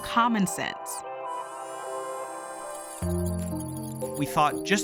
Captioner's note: mechanisms whirring